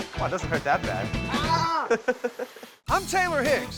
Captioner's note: laughing